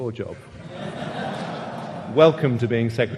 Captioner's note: audience laughing